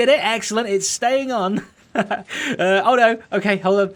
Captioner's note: chuckles